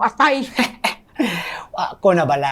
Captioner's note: Apo laughs